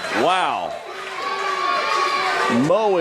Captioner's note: crowd murmurs